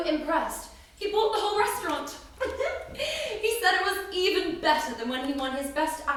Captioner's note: giggles